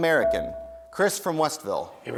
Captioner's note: dinging